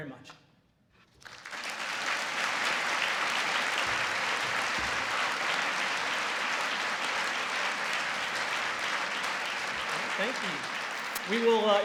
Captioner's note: applause